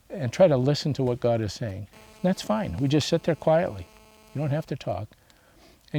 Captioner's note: phone vibrates